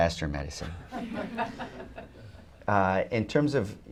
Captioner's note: laughter